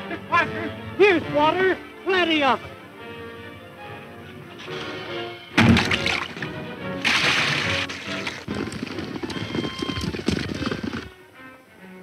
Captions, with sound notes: - Miss Parker, here's water. Plenty of it. (wood hitting wood) (water sloshing) (running hoof beats)